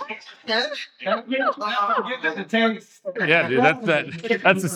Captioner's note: laughing